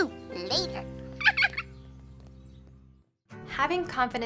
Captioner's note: laughs